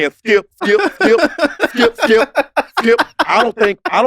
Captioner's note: laugh